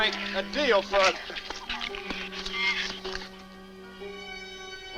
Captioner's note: shrews chatter